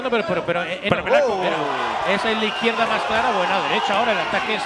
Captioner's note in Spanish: Gritos